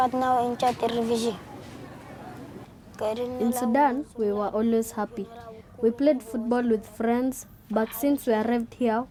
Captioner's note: through translator